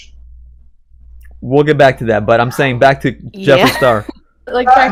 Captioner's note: laughs